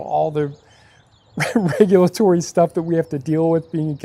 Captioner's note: laughing